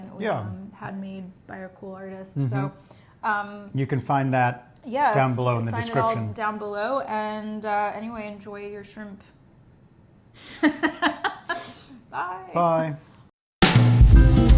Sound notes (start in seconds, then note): 10.5 laughs